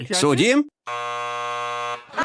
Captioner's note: buzzer r buzzing; laughghter